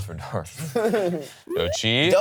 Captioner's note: laughs